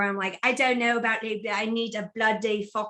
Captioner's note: "British" accent